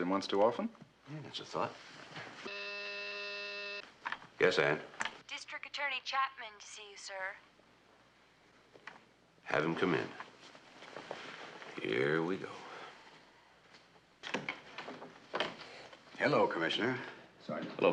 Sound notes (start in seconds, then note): 2.5 İntercom vızıltı